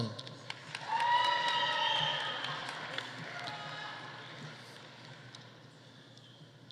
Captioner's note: audience applauding; audience cheering